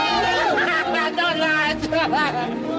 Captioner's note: chuckles